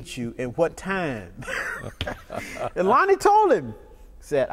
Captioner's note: laughter